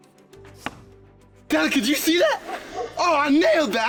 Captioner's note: sound of arrow hitting target